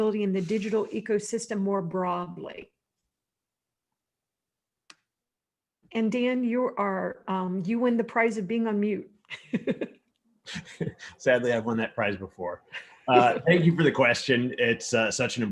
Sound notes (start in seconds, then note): 10.1 chuckles; 10.5 laughs